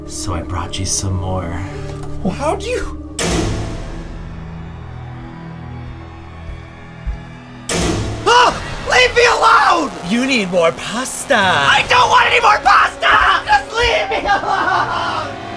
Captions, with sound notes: So I brought you some more. - Well, how'd you? (door slams) (loud bang) (screams) Leave me alone! - You need more pasta. - (yells) I don't want anymore pasta! Just leave me alone!